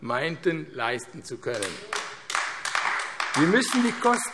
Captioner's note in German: Beifall AfD